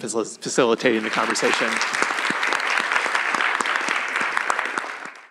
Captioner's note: applause